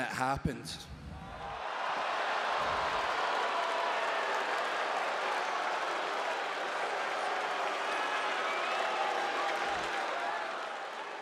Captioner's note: applause